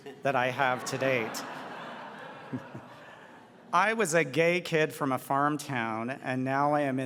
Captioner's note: audience laughs